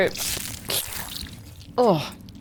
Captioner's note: imitates slurping